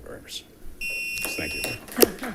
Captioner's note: timer beeping; audience clapping